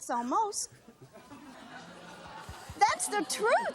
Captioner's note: laughter